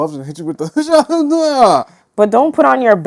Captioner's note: mma sounds